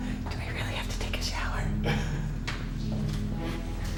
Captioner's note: whispering